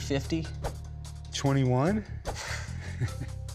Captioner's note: laughs